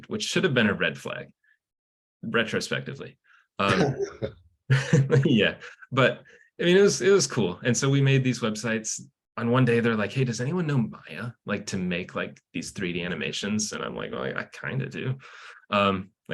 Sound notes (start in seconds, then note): 4.7 chuckles; 4.7 host laughs